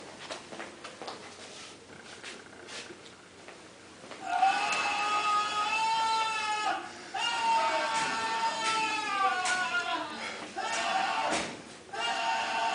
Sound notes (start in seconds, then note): 0.0 man Screaming